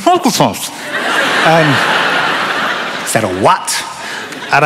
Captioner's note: laughter